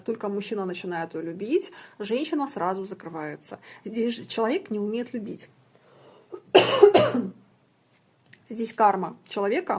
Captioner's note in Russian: кашель